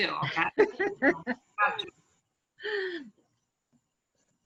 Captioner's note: laughs